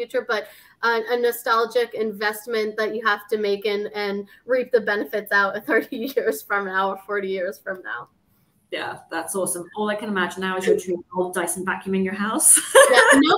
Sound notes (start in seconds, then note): 6.8 chuckles; 12.7 laughing